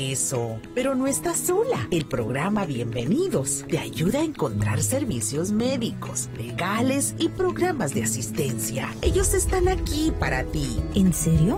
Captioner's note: spanish